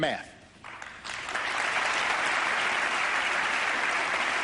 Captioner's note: applause